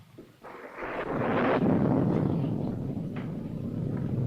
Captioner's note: thunder rumbling